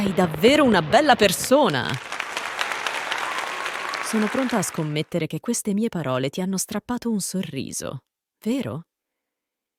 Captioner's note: applause